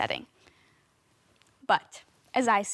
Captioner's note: soft breathing